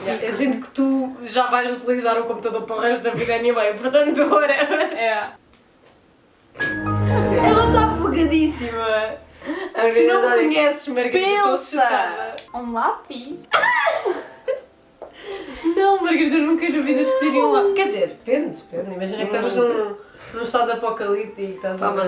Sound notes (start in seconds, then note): 13.5 laughs